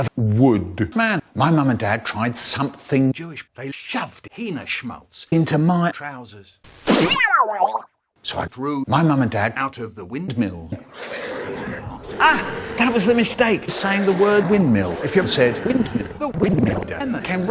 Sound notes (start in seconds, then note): 6.7 pfft!; 11.5 growling